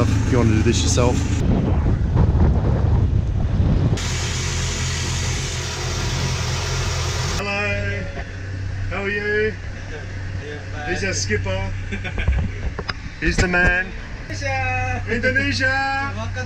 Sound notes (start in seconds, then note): 0.8 wind blowing; 3.9 rushing water; 5.8 boat motor